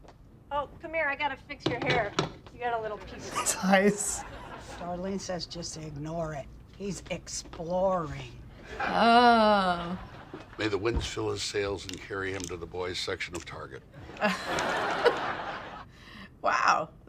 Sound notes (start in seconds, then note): 3.6 chuckles; 14.0 chuckles